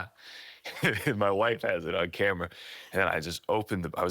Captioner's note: chuckles